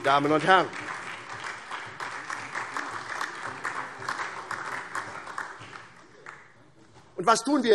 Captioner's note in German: Beifall SPD